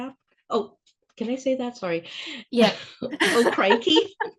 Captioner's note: laughing